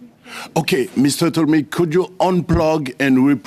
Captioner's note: speaking french